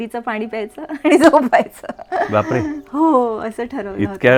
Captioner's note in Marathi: हास्य